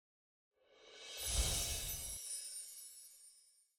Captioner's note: screen swoosh and chime